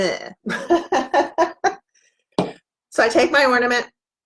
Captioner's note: laughs